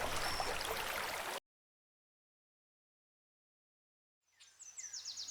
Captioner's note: applause